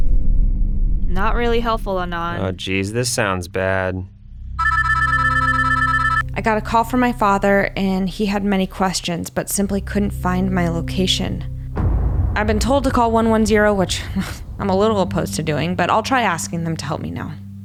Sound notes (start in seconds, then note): 4.6 phone ringing